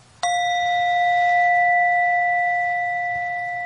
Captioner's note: bell chiming